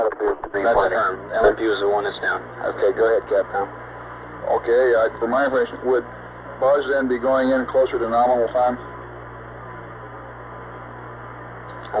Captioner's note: mission Control Audio